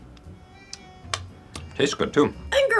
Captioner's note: smacking lips